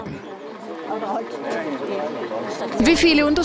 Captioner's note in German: Stimmengewirr